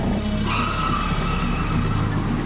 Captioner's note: tires squealing